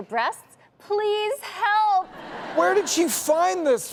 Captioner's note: audience laughs